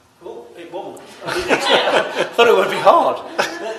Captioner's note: laughter